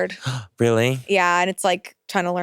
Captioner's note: gasps